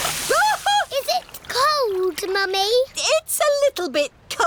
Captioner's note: shrieks